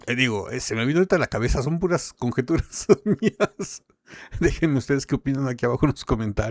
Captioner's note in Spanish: risas